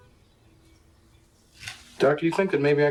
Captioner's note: birds chirping; car horns honking